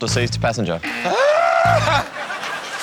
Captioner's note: buzzer sounds; shrieks